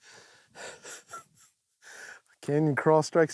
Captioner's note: laughs